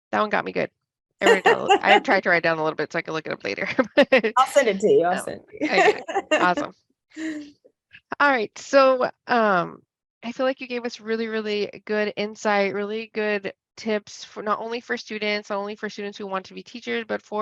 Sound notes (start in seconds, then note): 1.2 laughs; 4.3 laughs